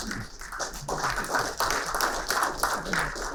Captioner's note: applauding